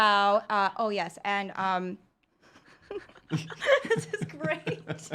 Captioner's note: laughs